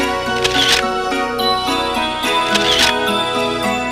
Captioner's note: snapshot noise